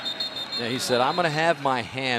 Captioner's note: whistle